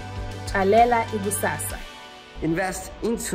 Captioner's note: speaks in foreign language